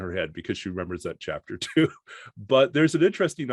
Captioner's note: chuckles